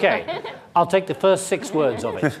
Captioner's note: laughing